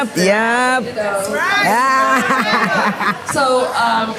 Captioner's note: laughs, cheers